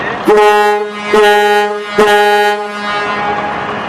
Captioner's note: steamer horn blowing